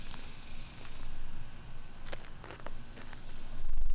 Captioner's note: none